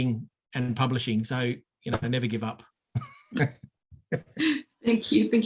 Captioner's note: both laughing